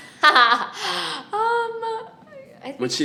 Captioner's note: laughing